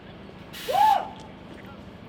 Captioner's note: whooping offscreen